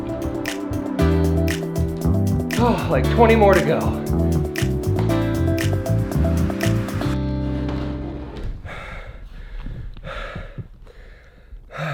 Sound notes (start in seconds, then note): 2.6 sighs; 8.5 breathing heavily